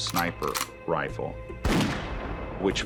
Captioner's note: shot